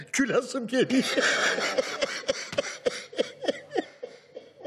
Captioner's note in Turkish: Gülme sesleri